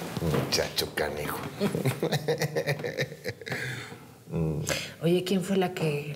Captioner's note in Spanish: risas